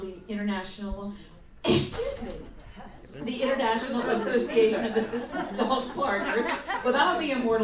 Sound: sneezes; audience laughs; laughs

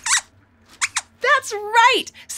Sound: squeaks squeaks

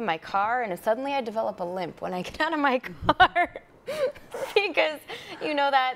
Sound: chuckling

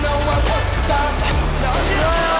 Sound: sliding

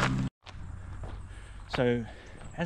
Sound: gravel crunching

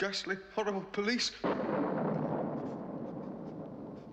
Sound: thunder

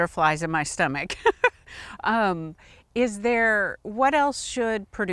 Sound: chuckling

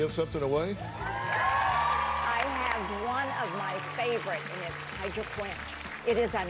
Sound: cheers and applause

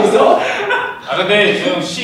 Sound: burst into laughter

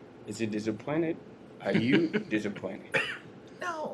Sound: laughter

